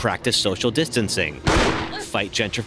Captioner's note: bang